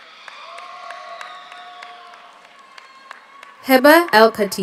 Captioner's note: audience applauds; audience cheers